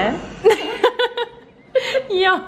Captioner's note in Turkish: gülüşmeler